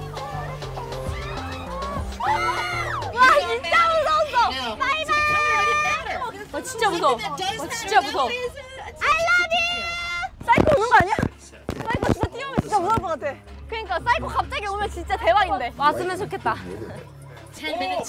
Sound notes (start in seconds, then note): 2.7 all screaming